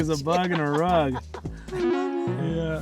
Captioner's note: laughs